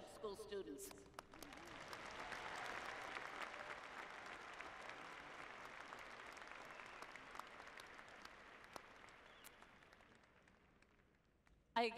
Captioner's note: applause